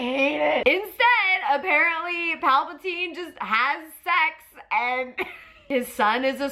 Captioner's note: laughs